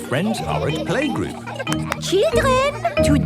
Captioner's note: clapping